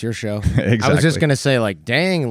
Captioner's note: chuckles